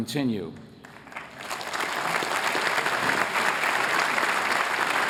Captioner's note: applause